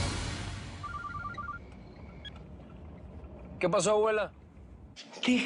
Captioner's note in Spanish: Suena un celular